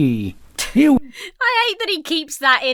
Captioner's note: Emma giggles